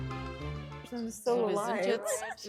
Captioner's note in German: lachen